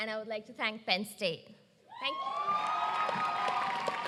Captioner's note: applause